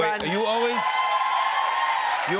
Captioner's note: cheers and applause